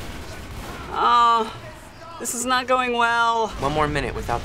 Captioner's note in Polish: jęczy zmartwiona